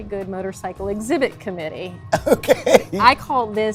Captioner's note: laughing